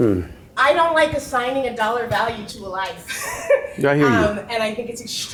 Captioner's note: laughs